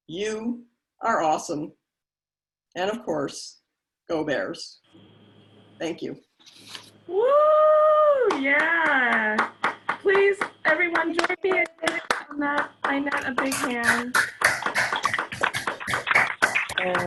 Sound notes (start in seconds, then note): 7.7 applauds; 13.9 crowd applauding